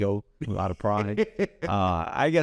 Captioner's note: laughs